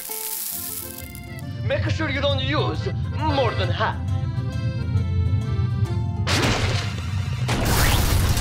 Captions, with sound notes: (rumbling sound) MAKE SURE YOU DON'T USE MORE THAN HALF.